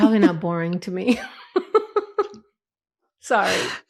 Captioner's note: laughs